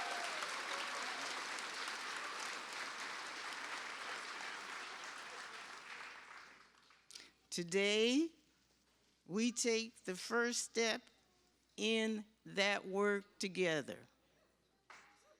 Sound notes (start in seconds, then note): 3.7 cheers and applause